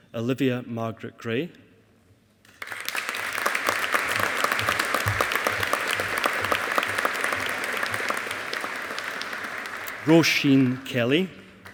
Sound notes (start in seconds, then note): 2.5 audience applauding